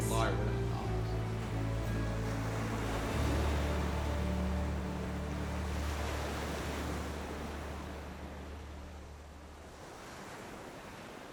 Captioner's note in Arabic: صوت الأمواج المتموجة